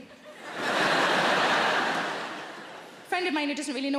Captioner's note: audience laughing